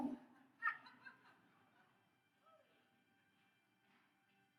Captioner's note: audience laughs; gentle music